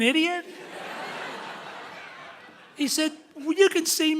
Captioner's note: audience laughing loudly